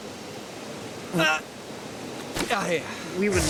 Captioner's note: grunting